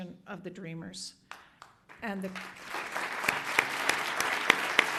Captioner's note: audience applauds